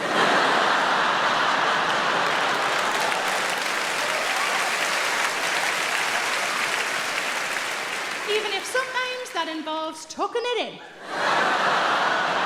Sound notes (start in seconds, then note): 0.2 audience laughing; 2.8 audience clapping